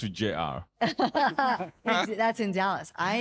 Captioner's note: laughing